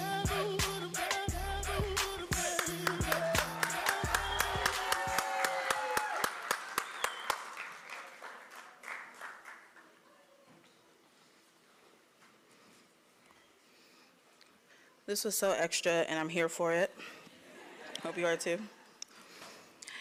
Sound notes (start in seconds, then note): 2.5 applause